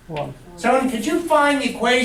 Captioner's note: voiceover